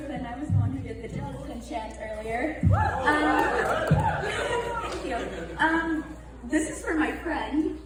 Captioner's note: audience claps